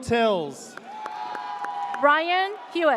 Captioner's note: audience cheers